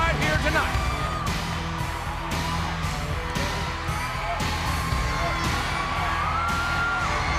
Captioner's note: crowd cheering continues; upbeat rock music continues